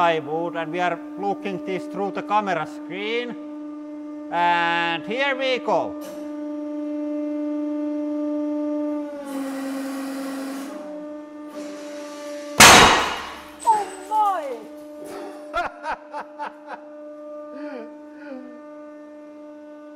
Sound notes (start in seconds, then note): 12.6 explosion; 15.2 laughing